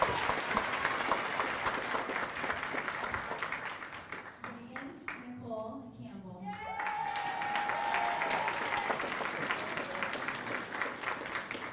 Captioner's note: cheers and applause